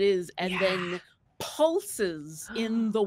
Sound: whispers

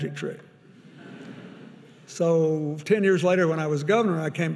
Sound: audience laughing

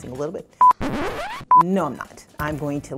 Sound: tape rewinds

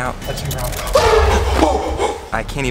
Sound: groaning

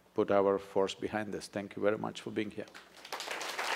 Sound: applause

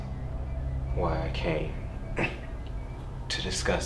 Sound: clears throat

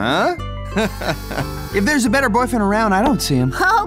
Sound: chuckles

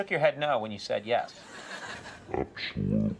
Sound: audience laughs

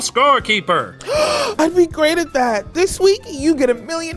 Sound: gasps

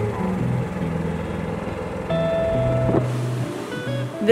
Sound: motor humming

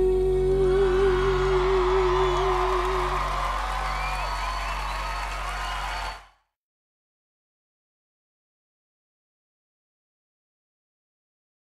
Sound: cheers and applause

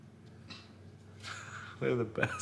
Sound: laughs

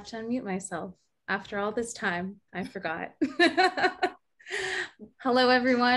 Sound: laughs

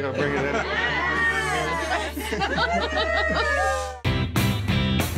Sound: cheering

